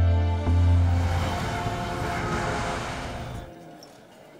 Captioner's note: Traffic sound